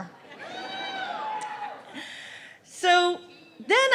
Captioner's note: cheering